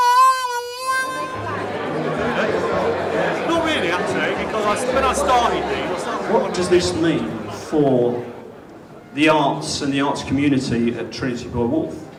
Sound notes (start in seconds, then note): 1.6 indistinct chatter